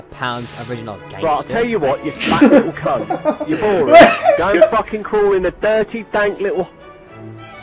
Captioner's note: 𝗺𝗼𝗿𝗲 𝗮𝗻𝗴𝗿𝘆 𝗕𝗿𝗶𝘁𝗶𝘀𝗵 𝗰𝗼𝗺𝗽𝗹𝗮𝗶𝗻𝗶𝗻𝗴